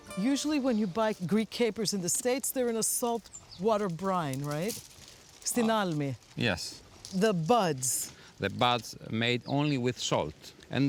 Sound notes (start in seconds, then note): 6.1 speaking in greek